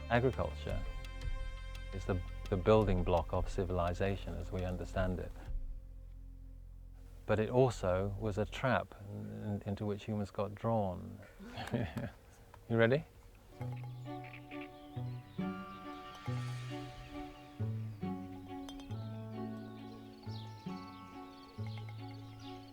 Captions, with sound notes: Agriculture is the, the building block of civilization as we understand it. But it also was a trap into which humans got drawn. (laughing) You ready? (soft music)